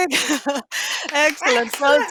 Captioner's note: applause